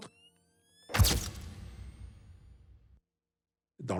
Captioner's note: camera snaps